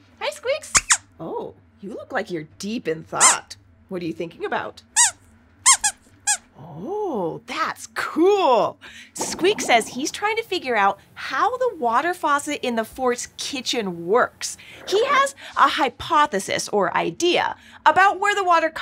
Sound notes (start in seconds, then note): 5.6 squeaks squeaks